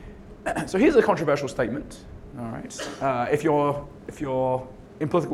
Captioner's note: cough